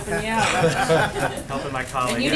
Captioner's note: laughter